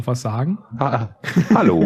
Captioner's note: laughs